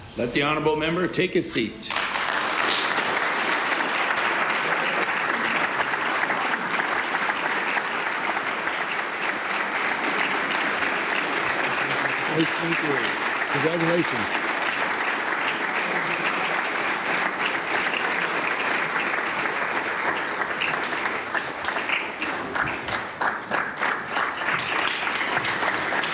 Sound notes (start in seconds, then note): 12.4 applause; 25.0 applause